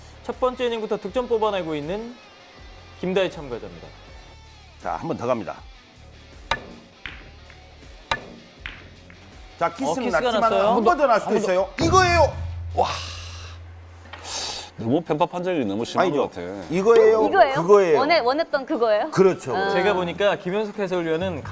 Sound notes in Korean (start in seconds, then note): 12.8 탄식